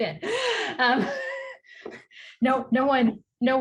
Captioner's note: chuckles